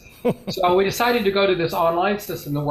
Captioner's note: laughs